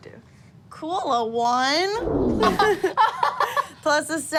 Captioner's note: laughing